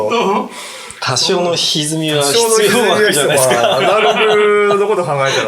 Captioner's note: laughing